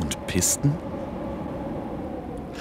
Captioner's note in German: Brausen des Windes